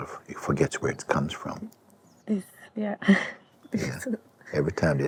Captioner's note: laughs